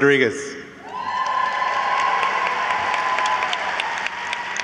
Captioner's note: audience cheers